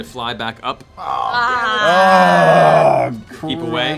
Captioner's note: groans